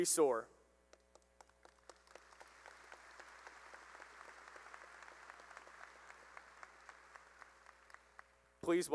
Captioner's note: applause